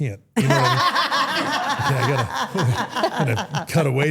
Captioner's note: everyone laughs